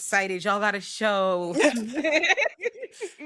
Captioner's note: laughing